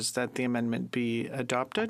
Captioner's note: speaking French